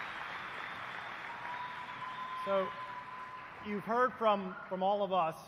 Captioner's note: applause